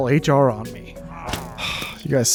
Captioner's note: sigh